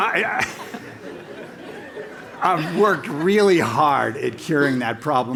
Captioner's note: laugh